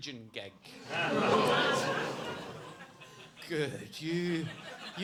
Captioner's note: audience gasping